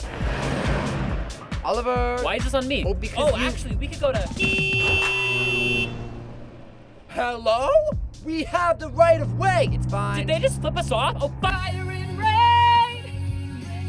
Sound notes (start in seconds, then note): 0.0 car revving; 4.2 car horn